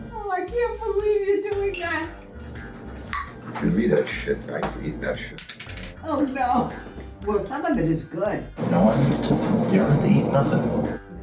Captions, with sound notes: Oh, I can't believe you're doing that. [Baby food lid pop off] Don’t give me that shit, I ain‘t eatin’ that sh- [Baby food lid rattling] Oh, no! Well, some of it is good... No, I don’t think so. You don’t have to eat nothin’...